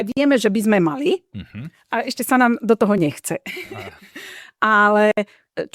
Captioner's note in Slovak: smiech